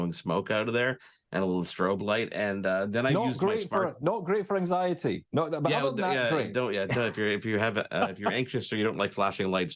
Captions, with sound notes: out of there and a little strobe light. And then I use my smart- - Not great for anxiety. - Yeah. - But other than that, great. (laughs) - Yeah, if you're anxious or you don't like flashing lights,